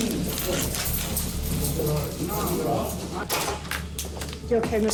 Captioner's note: indistinct chatter